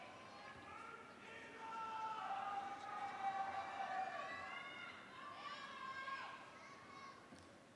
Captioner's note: cheering